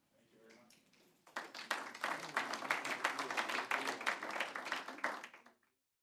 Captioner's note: applause